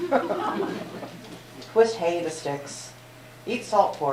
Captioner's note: laughter